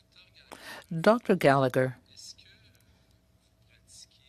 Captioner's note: speaking French